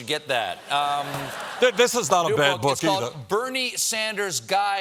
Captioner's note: laughter